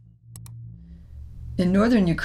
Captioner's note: mouse clicks